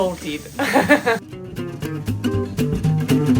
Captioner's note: chuckling; lively music